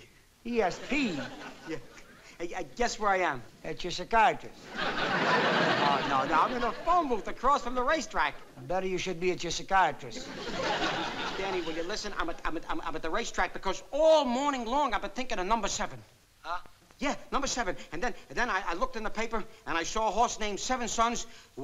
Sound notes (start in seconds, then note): 16.5 on phone